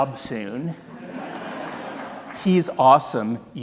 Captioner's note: audience laughing